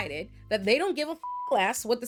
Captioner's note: beep